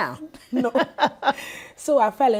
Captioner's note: laughing